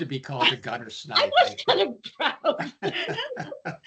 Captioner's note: laughing